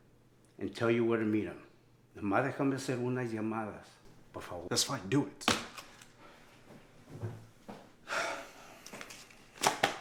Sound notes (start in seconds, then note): 2.1 Spanish